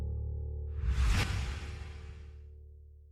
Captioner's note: whoosh